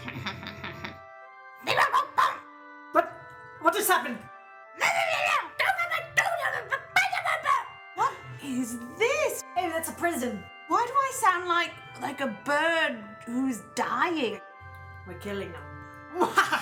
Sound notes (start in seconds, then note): 0.0 sneaky laughter; 2.1 Ewok grunts; 4.8 Angry Ewok screams; 16.2 diabolical laughter